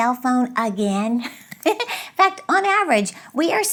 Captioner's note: laughs